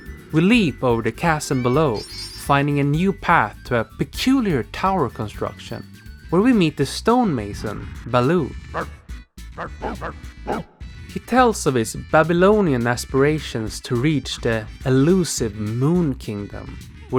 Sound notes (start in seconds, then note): 9.5 Balue grunts